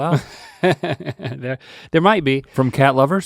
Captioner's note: laughing